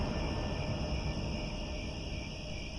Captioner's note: crickets